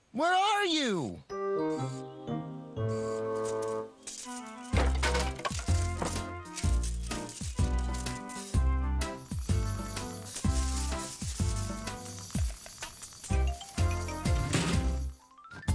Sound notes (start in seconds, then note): 4.0 clattering; 8.9 mouse Whirring; 14.5 slam!